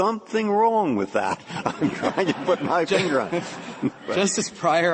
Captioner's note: laughter